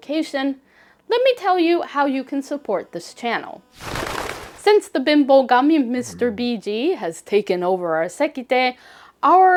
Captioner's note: birds flocking sound